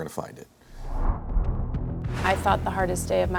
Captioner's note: whooshing